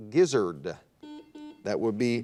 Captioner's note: buzzer dings